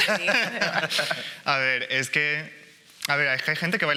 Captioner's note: laughing